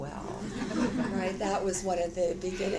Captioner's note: audience laughter